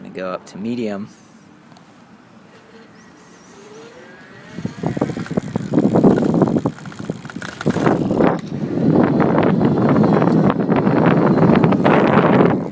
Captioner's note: wind and motor noise